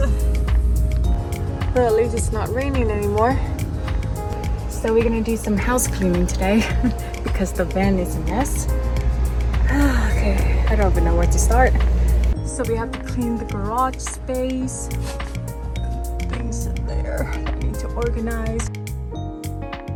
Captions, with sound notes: Well, at least it's not raining anymore. So we are going to do some house cleaning today because the van is a mess *sighs* I don't even know where to start So we have to clean the garage space Things in there, I need to organized